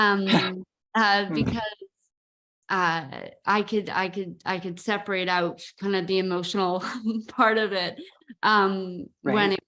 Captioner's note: laugh